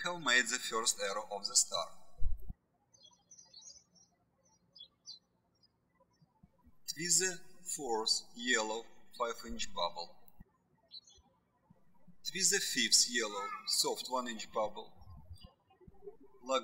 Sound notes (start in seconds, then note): 2.9 birds chirping